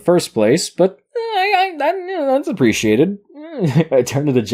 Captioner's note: stammers; chuckles